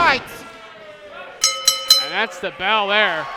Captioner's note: bell dinging